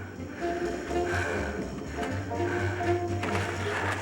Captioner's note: gasping